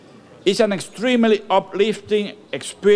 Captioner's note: none